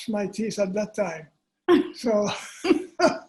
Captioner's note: laughter